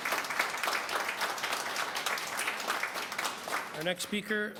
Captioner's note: applause